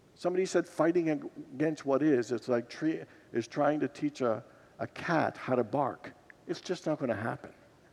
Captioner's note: congregation titters